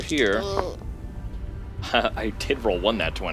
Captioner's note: chuckles